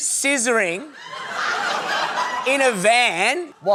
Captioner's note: laughter